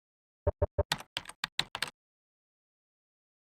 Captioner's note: typing sounds